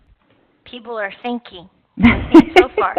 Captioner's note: laughing